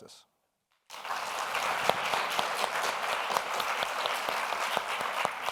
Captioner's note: audience applauds